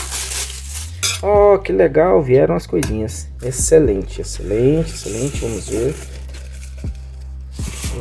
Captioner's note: utensils